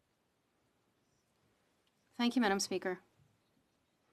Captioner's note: speaking French